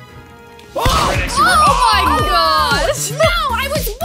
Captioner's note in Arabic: نيران البنادق